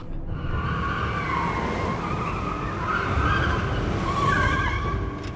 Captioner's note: car tires screeching